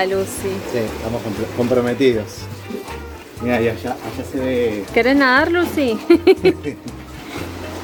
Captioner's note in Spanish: risas